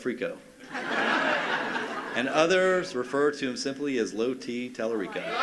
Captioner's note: laughter